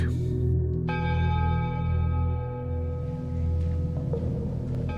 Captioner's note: bell dinging